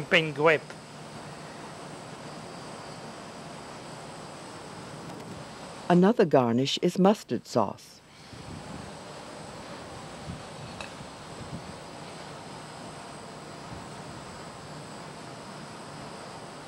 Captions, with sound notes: - [Voiceover] Another garnish is mustard sauce.